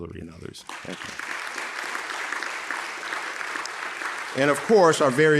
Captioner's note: audience applauding